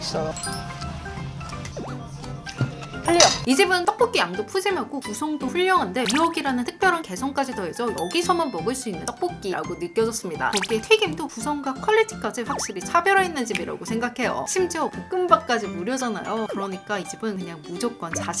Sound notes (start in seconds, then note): 1.2 nom nom